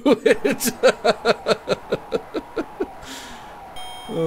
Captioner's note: laughing